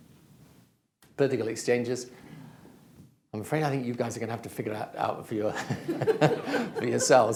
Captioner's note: laughter